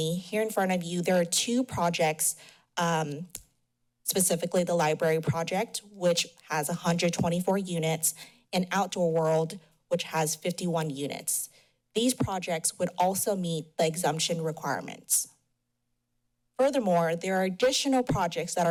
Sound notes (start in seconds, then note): 3.0 smacks lips; 15.3 pause